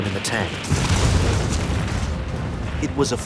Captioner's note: airplane explodes